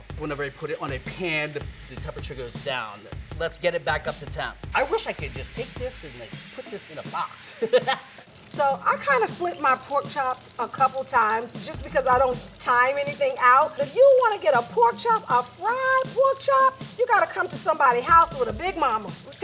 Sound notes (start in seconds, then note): 7.5 laughing